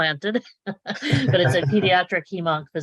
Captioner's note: laughing